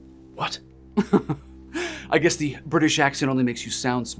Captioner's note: laughs